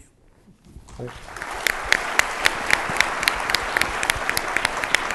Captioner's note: audience applauding